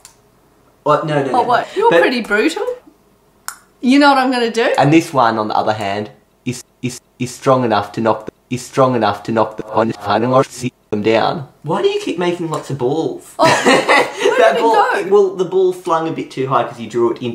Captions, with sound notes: Uh, no no no, wait. You're pretty brutal. You know what i'm gonna do? And this one on the other hand is-- is is is strong enough to strong enough to *reversed speaking* them down. Why do you keep making lots of balls? oh. *laughing* Where did it go? Well, the ball flung a little bit too high because you drew it into the ground.